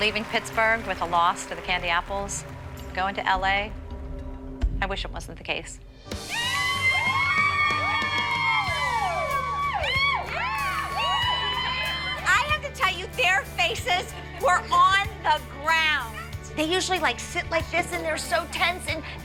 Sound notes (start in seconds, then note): 6.2 cheering